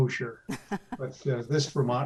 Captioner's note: laughs